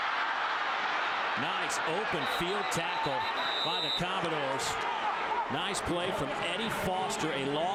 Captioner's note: crowd noise